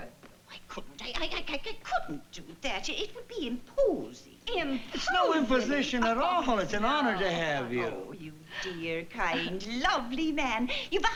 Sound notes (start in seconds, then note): 1.0 stammering